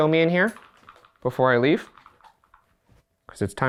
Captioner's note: none